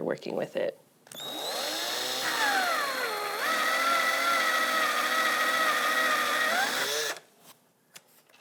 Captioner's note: drill whirring